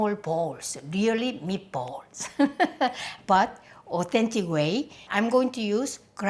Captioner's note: laughs